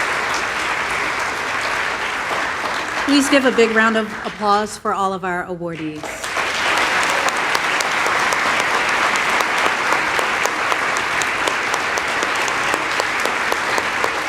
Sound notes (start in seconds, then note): 11.4 applause